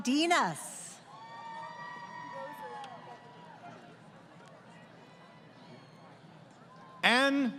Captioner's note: crowd Cheering